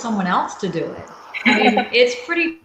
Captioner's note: chuckles